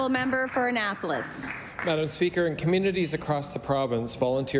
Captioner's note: some Applause